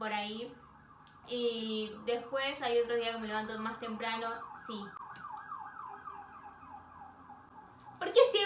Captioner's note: ambulance siren